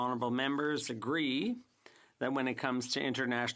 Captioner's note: speaking french